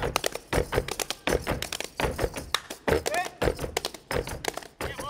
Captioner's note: speaking language other than English; feet stomping and hands clapping